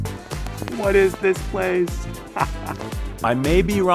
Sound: laughter

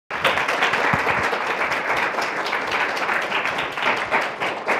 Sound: applause

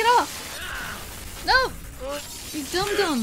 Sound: yelling

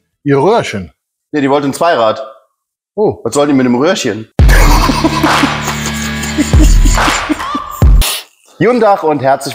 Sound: laughing

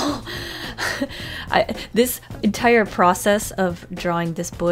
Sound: laughs

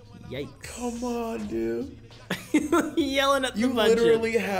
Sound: laugh

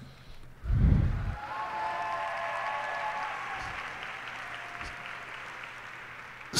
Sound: cheers and applause

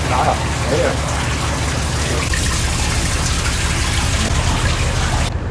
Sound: water dripping

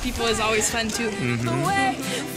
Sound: approving laughter

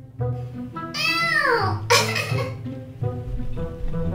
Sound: crying

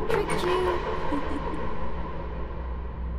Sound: laughter

